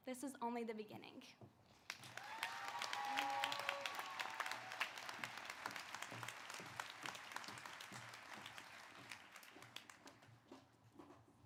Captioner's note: applause